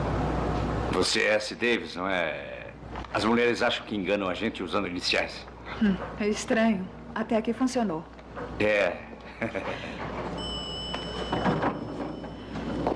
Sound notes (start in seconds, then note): 9.2 chuckles; 10.3 bell Dings